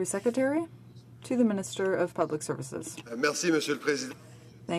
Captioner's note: speaking French